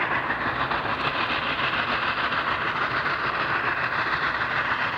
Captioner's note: steam locomotive